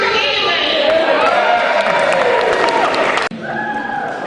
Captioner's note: cheering